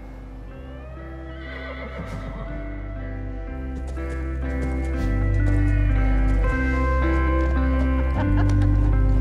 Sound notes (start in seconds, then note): 1.1 horse neighs; 7.8 laughing